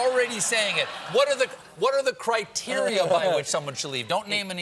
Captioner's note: laughter